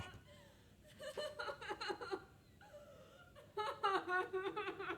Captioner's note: Catherine sobbing